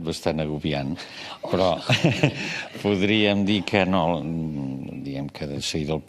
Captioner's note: laughs